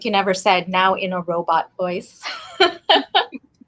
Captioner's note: laughs